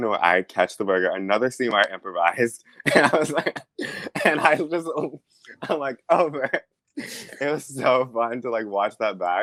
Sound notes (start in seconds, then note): 6.2 laughs